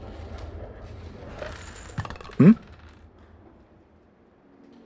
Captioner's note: airplane flyover; the sound of a pencils and small stuff falling on the floor inside the tower